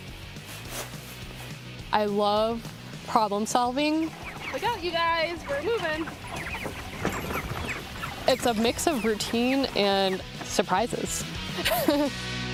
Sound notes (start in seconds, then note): 6.0 chickens chirping; 11.6 laughs